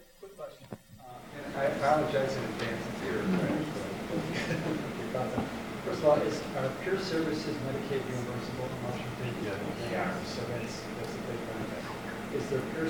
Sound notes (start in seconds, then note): 3.0 speaking off mic; 9.2 speaking off mic